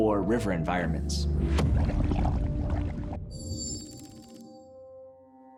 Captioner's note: liquid bubbles